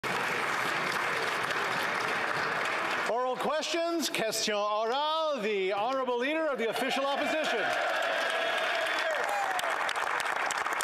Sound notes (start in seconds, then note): 2.6 some Applause